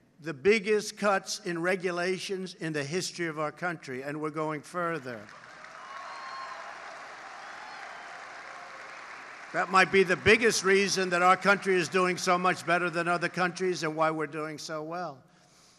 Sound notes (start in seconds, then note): 4.9 applause